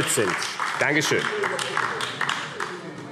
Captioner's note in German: Beifall AfD